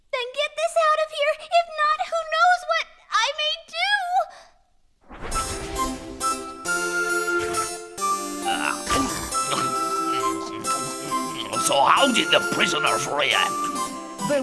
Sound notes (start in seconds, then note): 5.4 pleasant music; 8.3 Bechamel chomping